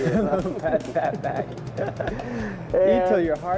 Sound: laughing

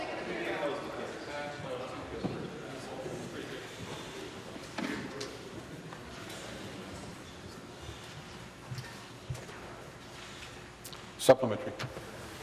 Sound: conversation din

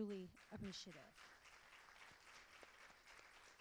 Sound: applause

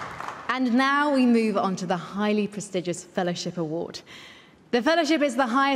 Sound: applause

